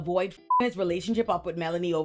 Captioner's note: beep